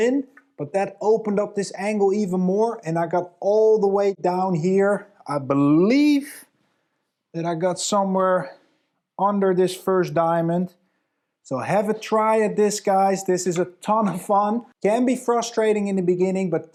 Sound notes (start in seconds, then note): none